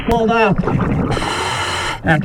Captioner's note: regulator hissing